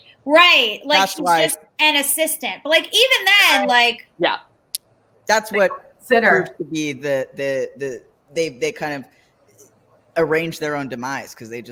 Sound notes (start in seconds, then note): 7.5 stammers